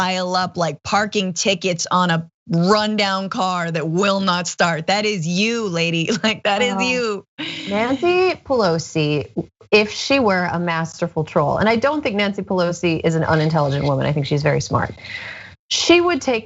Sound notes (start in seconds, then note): 7.4 laugh